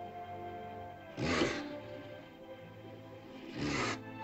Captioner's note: sentimental music; dinosaur snorts; romantic music